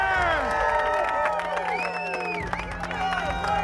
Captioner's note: crowd cheering